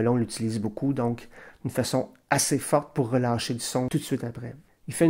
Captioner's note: forceful accent